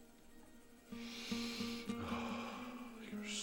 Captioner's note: inhales deeply